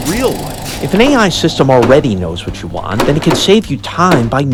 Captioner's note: podcast Voice